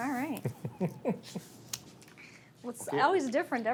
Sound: laughs

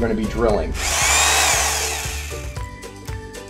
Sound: drills hole

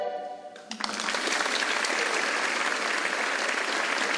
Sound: audience clapping

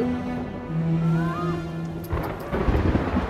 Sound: screaming; thundering

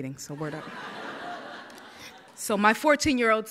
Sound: audience laughs

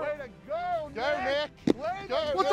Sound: thump

